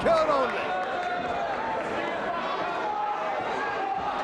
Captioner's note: audience cheers